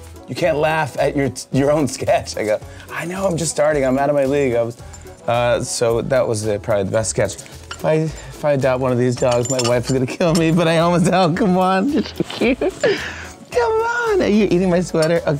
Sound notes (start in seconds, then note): 11.8 giggles